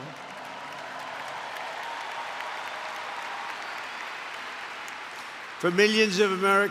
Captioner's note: applause